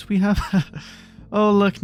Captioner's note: chuckles